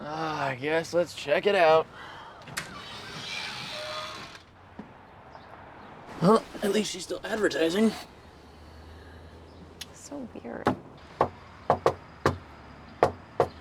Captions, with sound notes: - Ah, I guess. Let's check it out. (screen door creaking) At least she's still advertising. - So weird. (Tyler knocks)